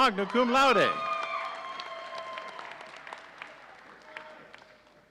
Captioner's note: audience cheering